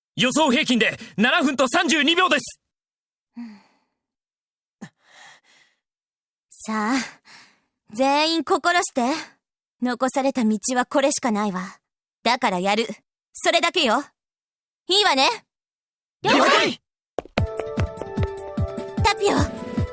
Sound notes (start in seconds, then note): 4.9 bated breath